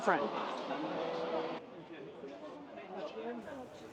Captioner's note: crowd chattering